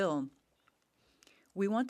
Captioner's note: speaking French